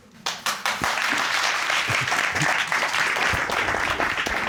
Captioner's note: audience applauding